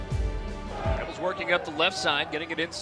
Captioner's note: voiceover